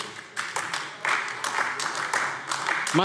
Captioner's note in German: Beifall AfD